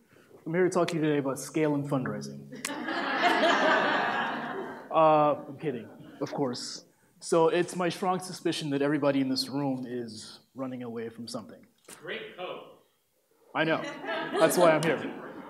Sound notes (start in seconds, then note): 2.5 laughter